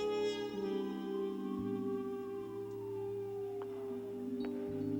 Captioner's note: sirens wailing